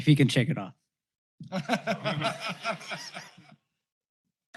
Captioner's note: laughter